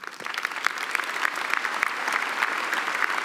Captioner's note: applause